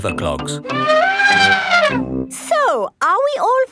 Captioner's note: trumpeting